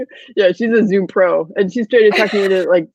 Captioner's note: laughing